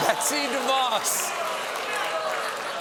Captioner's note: audience reacts